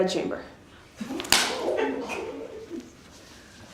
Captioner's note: slap